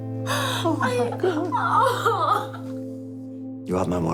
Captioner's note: sobs